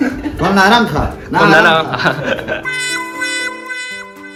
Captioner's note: laughter